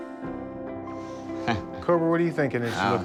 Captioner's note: chuckles